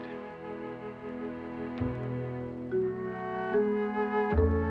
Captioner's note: none